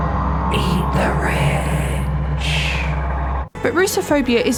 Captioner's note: ominous whispers